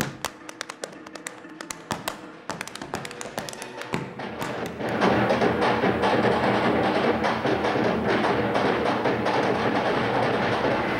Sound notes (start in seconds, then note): 4.7 loud stomping and clapping